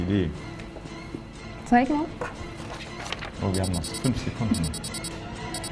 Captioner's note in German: stoppuhr piepst